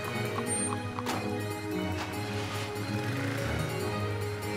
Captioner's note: engine turns over